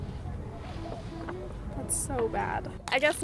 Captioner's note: paper rustling